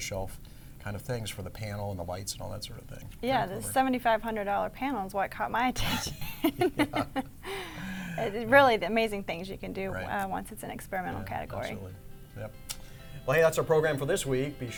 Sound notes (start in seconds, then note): 6.0 laughing